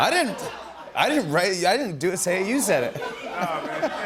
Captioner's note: laughter